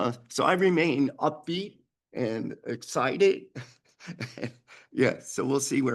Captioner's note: chuckles